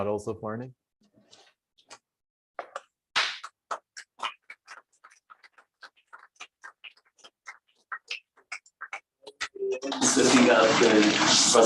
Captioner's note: applause